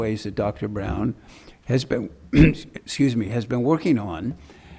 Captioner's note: clears throat